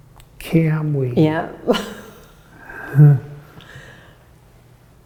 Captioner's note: chuckles